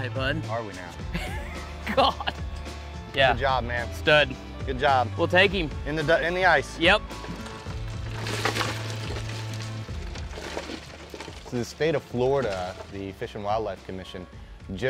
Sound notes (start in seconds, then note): 1.1 laughs; 7.1 fish splash